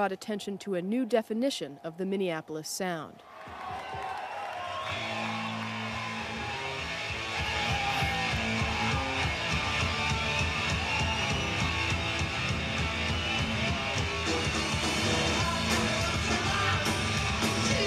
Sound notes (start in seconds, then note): 4.0 audience cheering; 6.6 energetic rock music